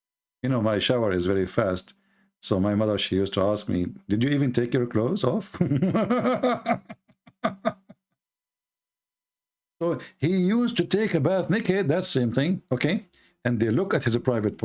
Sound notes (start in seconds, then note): 5.5 Ketawa